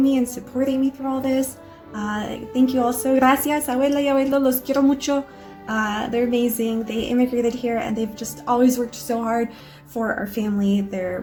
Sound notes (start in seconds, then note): 3.2 speaking in a foreign language